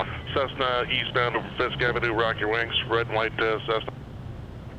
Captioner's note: radio